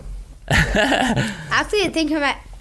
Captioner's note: laughing